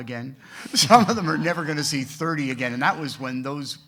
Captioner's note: laughs